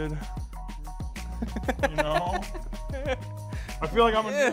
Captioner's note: laughing